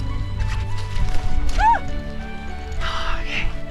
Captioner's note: shrieks